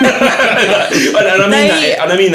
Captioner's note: both laughing